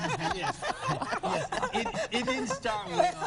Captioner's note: laughter